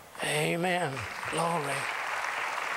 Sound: applause

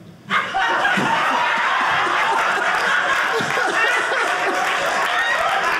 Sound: audience laughing

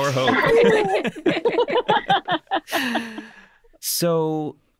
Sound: all laughing

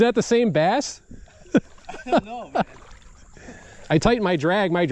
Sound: laughing

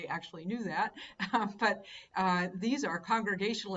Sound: laughing

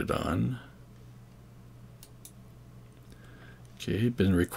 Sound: mouse clicks

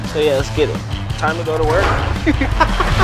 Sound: voiceover; laughs

